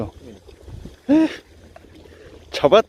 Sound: surprised

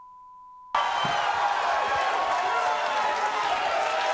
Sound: beep; audience cheering

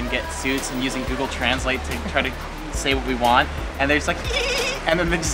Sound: giggle

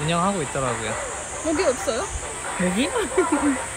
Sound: scaredly gibberish

